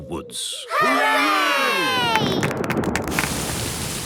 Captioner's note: thunder